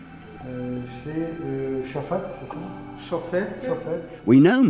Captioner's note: scholars speaking French